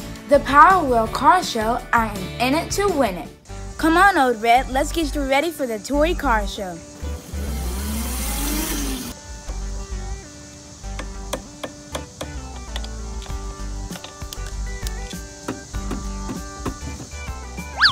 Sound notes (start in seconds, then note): 5.8 playful music; 7.0 motor racing